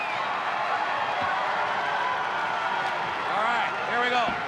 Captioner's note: crowd cheering